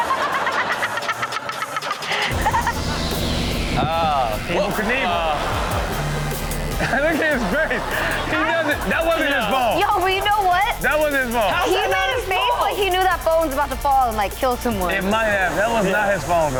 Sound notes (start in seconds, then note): 0.1 audience laughs; 4.7 audience reacts